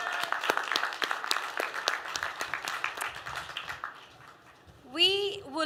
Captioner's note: applause